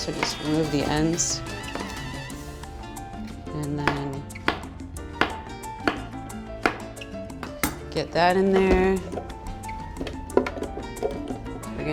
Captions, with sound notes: to just remove the ends. And then (slicing loudly) (gentle music) get that in there. (gentle music)